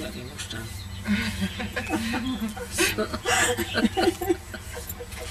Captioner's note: laughter